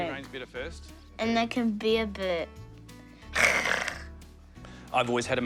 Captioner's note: growls